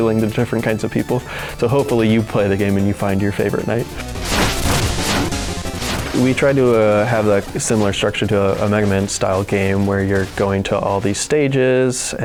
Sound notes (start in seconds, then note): 3.8 wooshes